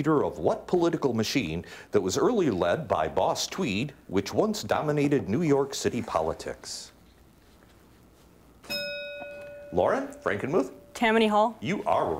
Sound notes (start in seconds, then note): 8.6 bell ringing